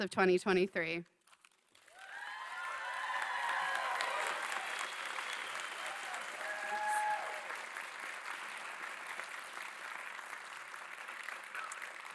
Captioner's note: applause